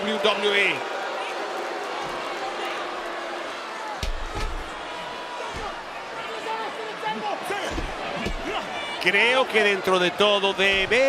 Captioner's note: applause